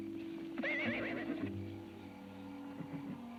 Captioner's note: horse whinnies; tense music